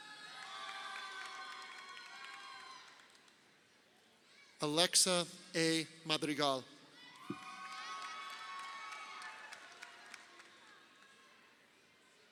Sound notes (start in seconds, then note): 0.0 crowd cheering; 7.1 crowd cheering